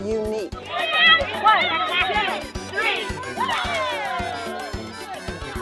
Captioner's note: children chattering